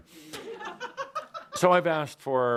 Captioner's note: laughter